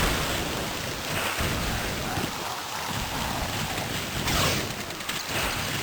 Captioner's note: whoosh! thock! whoosh! thock! whoosh! thock!; rainfall, thunder rumbling